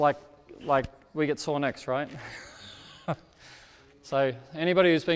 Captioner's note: laughs